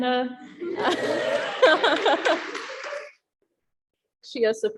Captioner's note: applauding